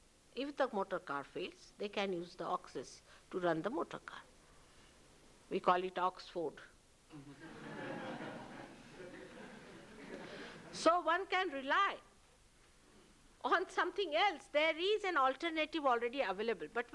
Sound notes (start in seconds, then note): 9.3 laughter